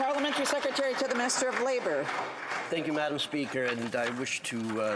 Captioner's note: some Applause